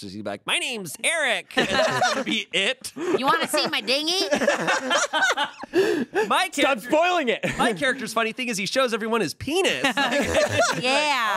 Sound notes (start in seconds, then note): 1.6 everyone laughs; 9.8 everyone laughs